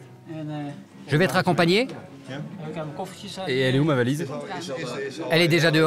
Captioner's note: Dutch spoken audio